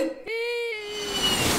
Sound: kid Crying

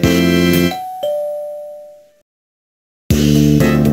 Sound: ding-dong

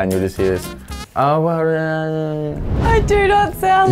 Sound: murmuring

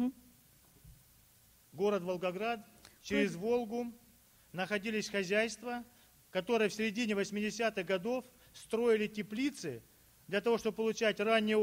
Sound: speaking Russian

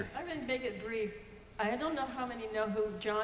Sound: voiceover

